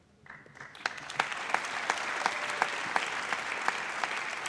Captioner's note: audience applauds